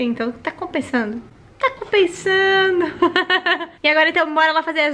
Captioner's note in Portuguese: risos